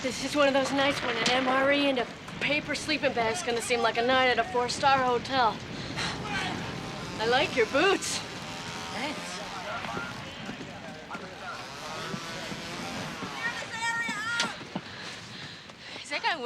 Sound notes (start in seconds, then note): 8.3 saw buzzing